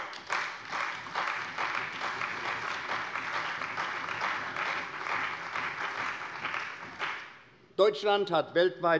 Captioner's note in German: Beifall bei der CDU und dem BÜNDNIS 90/DIE GRÜNEN